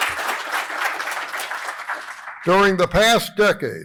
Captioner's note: applause